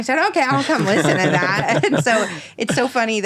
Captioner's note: laughing